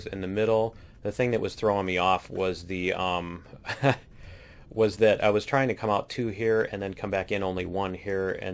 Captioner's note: laughs